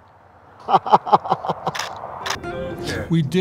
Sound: laughter

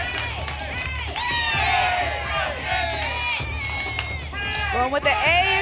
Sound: audience shouting letters; audience chanting " "

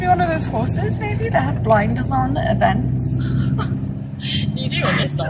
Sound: laughs

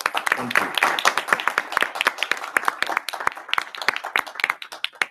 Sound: attendees applauding

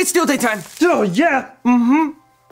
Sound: sizzles

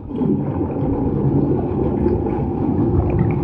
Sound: water burbling

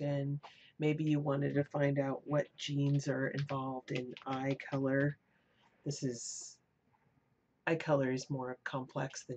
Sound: typing

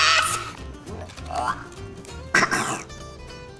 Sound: gagging

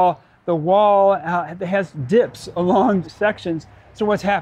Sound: laugh

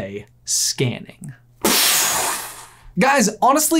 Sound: explosion

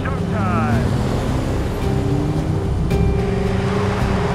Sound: engines revving

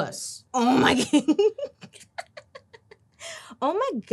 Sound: laughing

